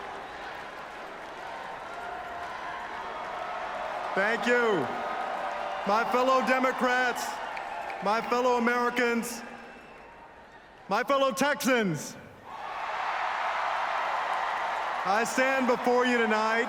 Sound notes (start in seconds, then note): 13.6 applause